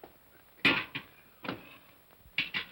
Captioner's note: cup sets down hard